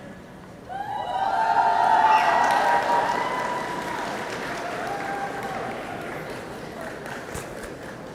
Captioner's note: cheers